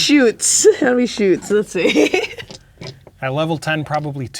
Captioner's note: laughing